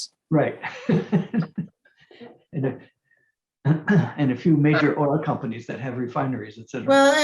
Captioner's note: laughs